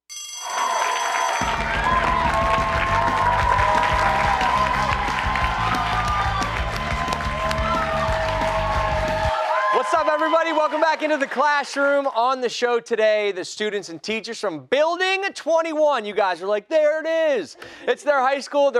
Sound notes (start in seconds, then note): 12.4 cheers and applause